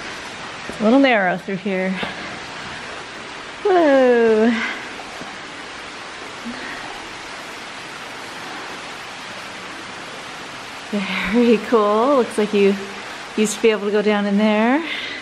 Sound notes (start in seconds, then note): 5.0 water running